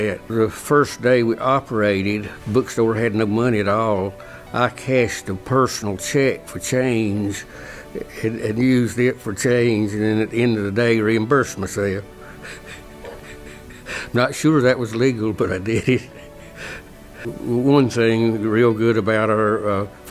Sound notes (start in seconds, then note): 12.1 laugh; 17.3 laugh